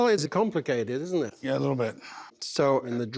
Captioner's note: sighs